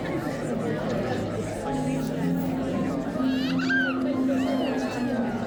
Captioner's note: child screaming